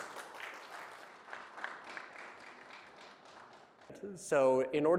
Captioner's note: applause